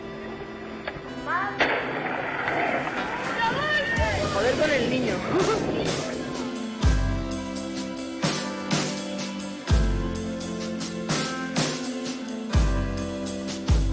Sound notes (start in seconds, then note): 0.1 music and noises; 5.2 laughs